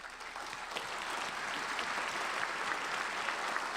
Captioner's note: applauding